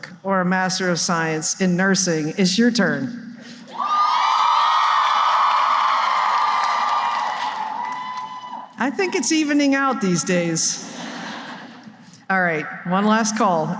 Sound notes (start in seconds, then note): 3.7 cheering; 10.8 laughter